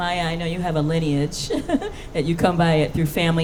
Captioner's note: laughing